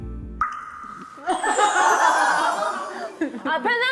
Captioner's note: mind going completely blank sound effect